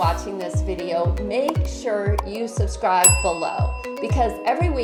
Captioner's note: bell dings